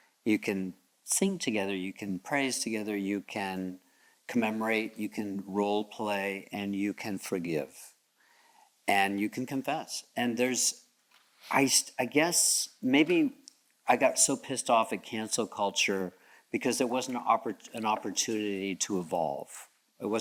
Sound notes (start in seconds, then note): none